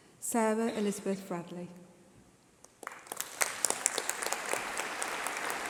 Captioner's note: applause